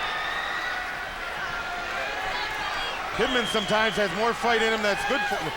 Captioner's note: crowd cheering